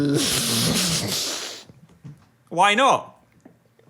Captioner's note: Dan laughing